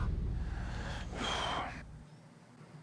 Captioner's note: sighs